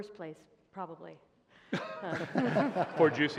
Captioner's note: laughter